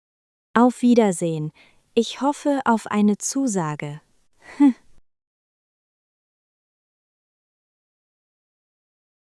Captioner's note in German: lacht